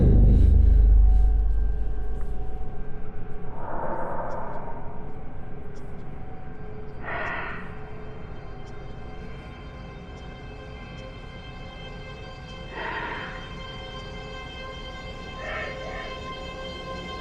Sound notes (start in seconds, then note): 0.2 monster rasping softly; 0.2 soft intense music; 10.2 monster rasping softly; 10.2 soft intense music